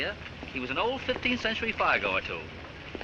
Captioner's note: none